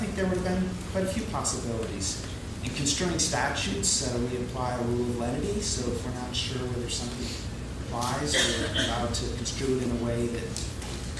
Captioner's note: laughing